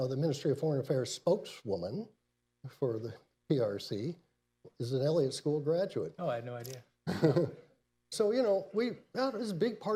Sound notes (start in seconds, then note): 7.1 laughs